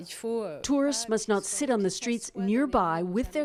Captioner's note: speaking French